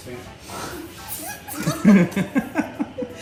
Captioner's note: laughing